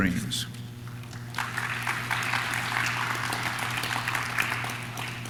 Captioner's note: audience claps